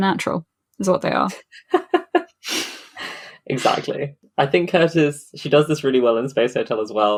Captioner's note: laughs